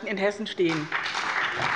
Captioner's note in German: Beifall bei dem BÜNDNIS 90/DIE GRÜNEN und der CDU sowie bei Abgeordneten der SPD